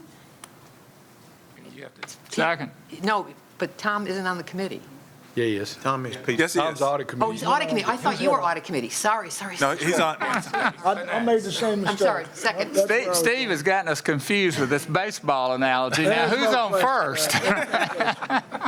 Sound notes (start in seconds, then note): 5.5 laughter; 17.2 laughter